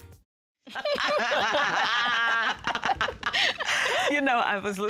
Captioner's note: laughing